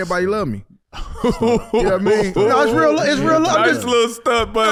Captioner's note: laughs